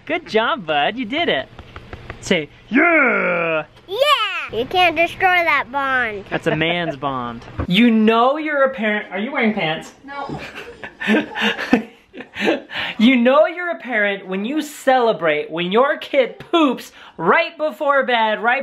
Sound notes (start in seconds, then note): 10.1 voiceover